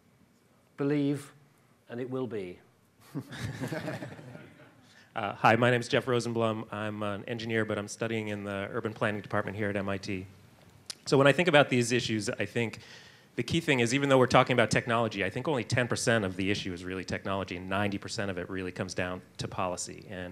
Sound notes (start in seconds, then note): 3.2 panel and audience laughs